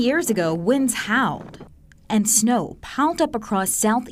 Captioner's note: wind gusting